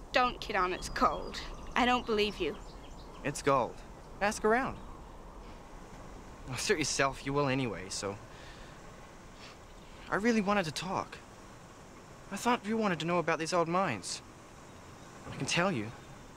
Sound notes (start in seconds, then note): none